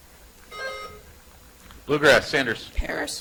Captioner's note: buzzer chimes